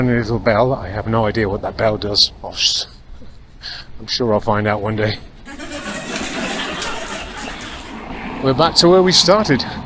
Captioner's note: laughter